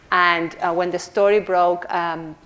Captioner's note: none